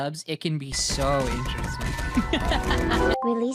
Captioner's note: laughs